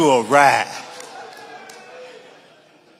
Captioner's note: audience laughing